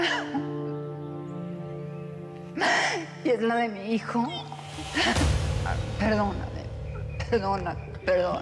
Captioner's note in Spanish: sollozos